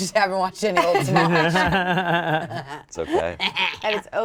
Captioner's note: all laughing